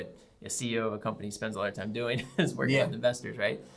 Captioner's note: laughs